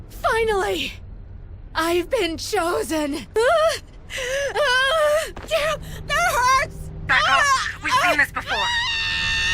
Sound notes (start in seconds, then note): 3.4 whining